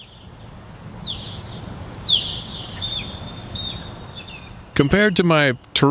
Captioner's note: SFX: osprey chirping